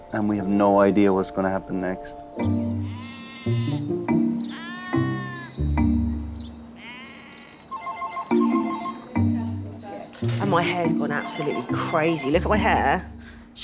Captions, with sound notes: and we have no idea what's gonna happen next. (sheep bleating) (phone ringing) - And my hair's gone absolutely crazy. Look at my hair.